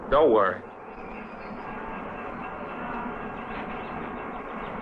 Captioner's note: train clattering; birds chirping